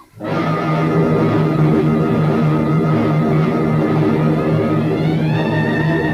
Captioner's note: plane engines revving; suspenseful music